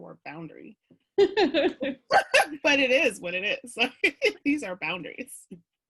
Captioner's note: mutual laughing